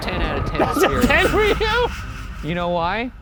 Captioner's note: laughing